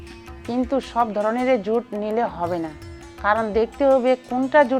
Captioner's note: speaking foreign language